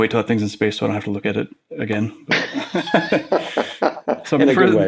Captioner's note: laughs